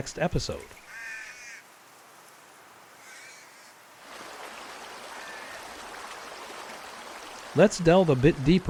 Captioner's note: bird, water, wind sounds